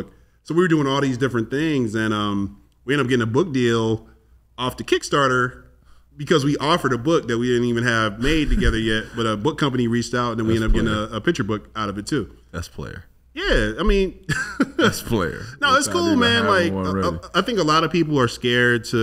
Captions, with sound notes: So we were doing all these different things and we ended up getting a book deal off the Kickstarter because we offered a book that we didn't even have made together yet, but a book company reached out and then we ended up getting a picture book out of it too. - That's player. - Yeah, I mean. (laughs) - That's player. - No, it's cool man. Like, I think a lot of people are scared